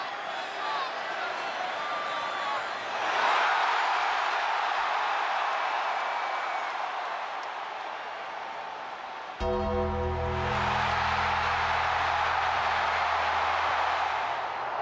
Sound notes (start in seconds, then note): 3.6 crowd cheers; 9.4 tense music; 10.9 crowd roars